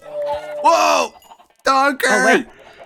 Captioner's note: donkey death sounds